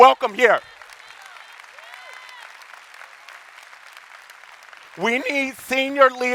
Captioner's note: audience applauding